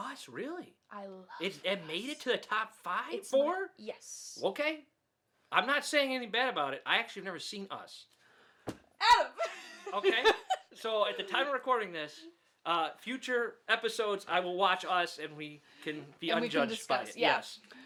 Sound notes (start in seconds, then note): 9.3 laughs